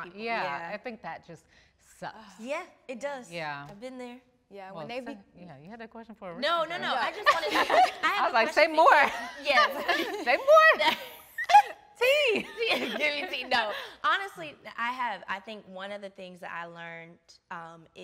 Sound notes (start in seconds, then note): 7.0 laughing; 9.4 all laughing; 12.0 all laughing